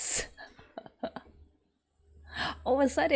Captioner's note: laughs